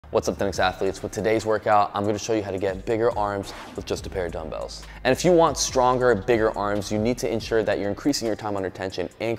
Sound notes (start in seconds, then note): 3.2 air whooshing